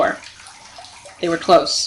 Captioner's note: splashing and swearing